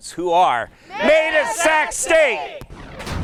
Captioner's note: shouting